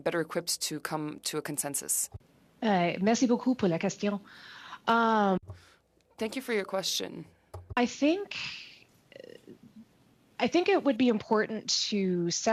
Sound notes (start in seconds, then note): 6.7 speaking French